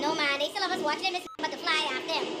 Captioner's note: beep